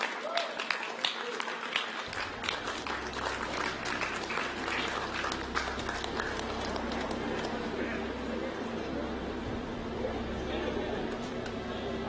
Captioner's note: applause